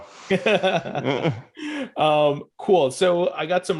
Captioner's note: laughing